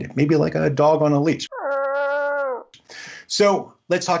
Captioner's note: dog growling